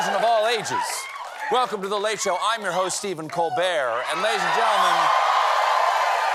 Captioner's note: cheers and applause